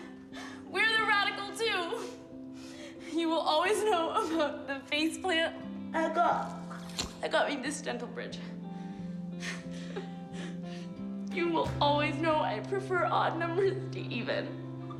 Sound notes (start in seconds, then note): 9.7 laughs